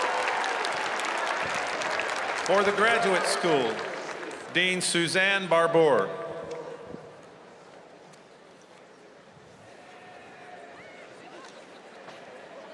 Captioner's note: cheers and applause